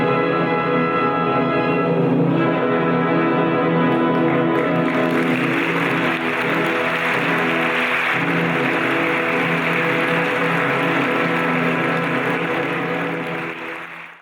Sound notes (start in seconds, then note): 4.8 audience applauds